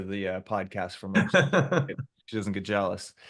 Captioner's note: laughs